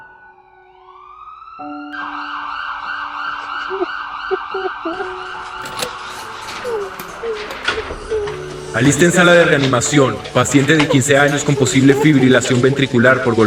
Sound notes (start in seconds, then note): 0.0 ambulance siren; 3.6 woman crying